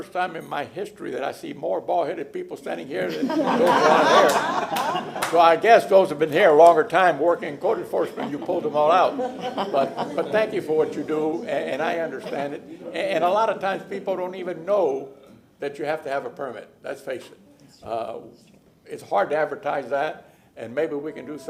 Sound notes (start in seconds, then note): 10.1 laughter